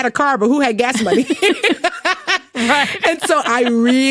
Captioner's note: both laughing